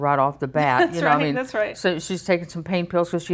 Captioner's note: laughing